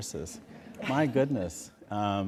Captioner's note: laughter